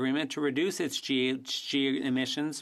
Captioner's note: speaking French